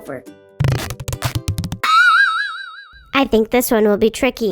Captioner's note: sound effects bouncing